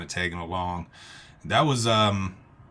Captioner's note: none